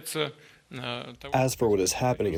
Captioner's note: through translator